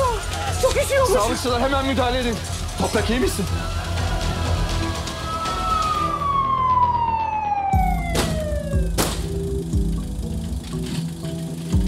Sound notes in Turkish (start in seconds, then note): 4.9 Ambulans sireni çalıyor; 8.8 Gerilim müziği